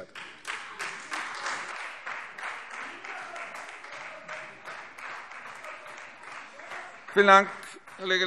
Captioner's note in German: Beifall Freie Demokraten